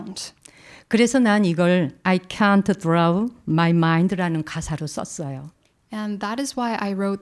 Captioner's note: speaking in Korean